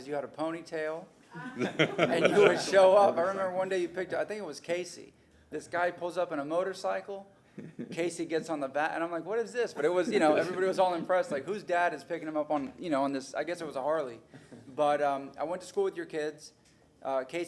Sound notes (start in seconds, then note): 5.3 laughter